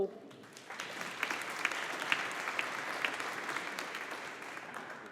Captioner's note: audience applauding